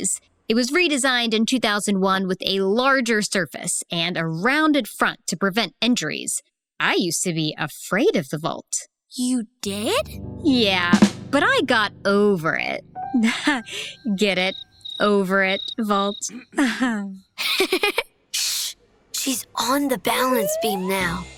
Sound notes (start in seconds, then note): 17.3 chuckles; 17.4 laughs